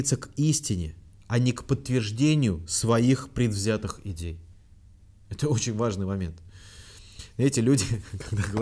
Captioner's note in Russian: усмехается